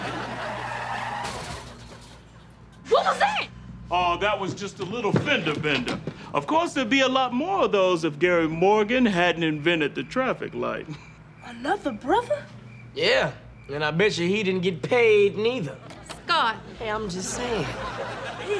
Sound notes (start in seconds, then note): 0.0 tires squealing; 1.0 crash